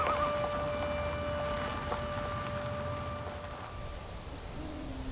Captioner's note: bird and insect sounds